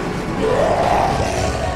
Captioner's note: snarl in the distance